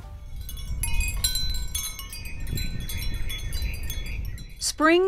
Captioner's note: wind chime tinkling